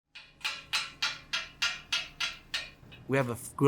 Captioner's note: tool clanging